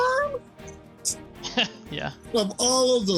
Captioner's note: laughs